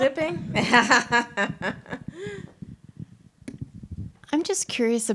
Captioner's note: laughs